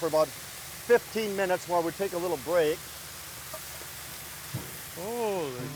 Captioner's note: potatoes sizzling